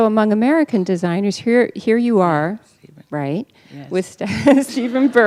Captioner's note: laughter